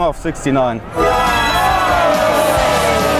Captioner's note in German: Jubel, Applaus